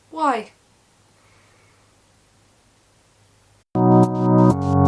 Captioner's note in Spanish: silencio incomodo ahre